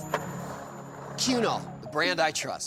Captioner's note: skateboard wheels roaring